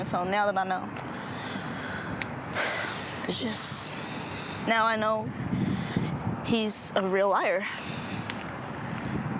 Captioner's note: none